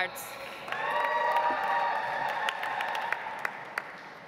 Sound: audience applauds

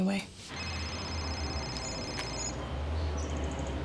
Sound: phone rings

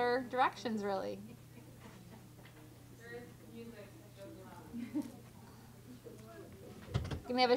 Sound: chatter

